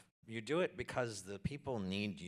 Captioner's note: none